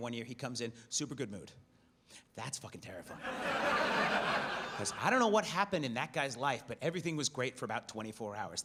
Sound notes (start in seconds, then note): 3.1 audience laughs